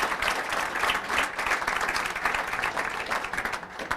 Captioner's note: applause